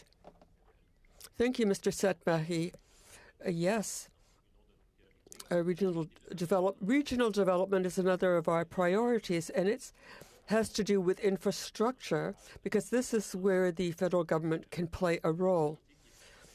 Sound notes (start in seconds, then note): 1.1 speaking French